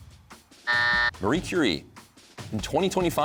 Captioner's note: buzzer sounds